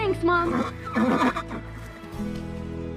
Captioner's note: horse snorts